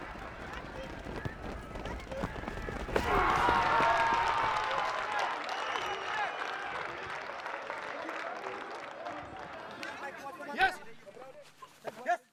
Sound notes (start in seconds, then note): 1.8 crowd cheering